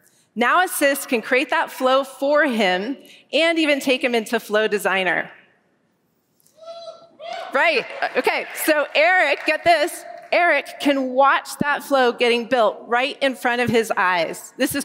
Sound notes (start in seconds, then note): 7.2 cheering